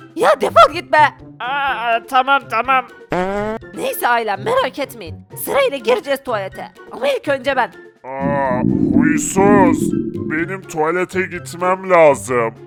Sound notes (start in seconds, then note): 3.2 farting sound